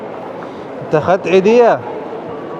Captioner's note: Arabic